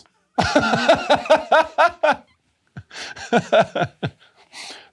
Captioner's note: laughter